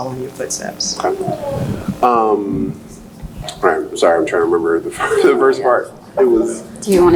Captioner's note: laughs